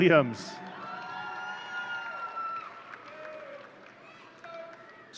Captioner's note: audience cheering